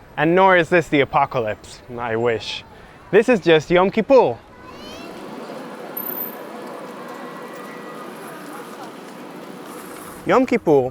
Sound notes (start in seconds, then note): 4.3 ambient sounds, people riding bikes, still no highway noise